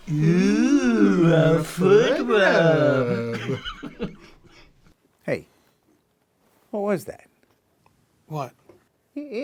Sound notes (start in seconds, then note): 3.6 Marty laughs